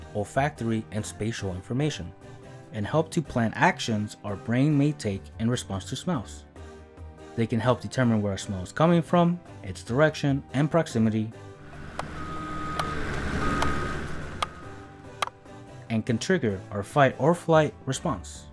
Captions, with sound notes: olfactory and spatial information, and help to plan actions our brain may take in response to smells. They can help determine where a smell is coming from, its direction and proximity... [construction sounds] ...and can trigger our fight-or-flight response.